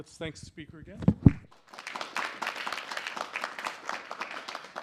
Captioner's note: applause